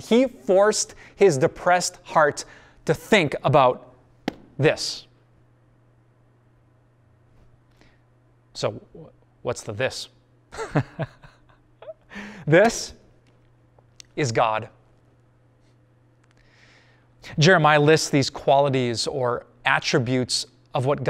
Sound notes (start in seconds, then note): 10.5 pastor: Laughter